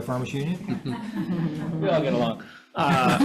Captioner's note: all laugh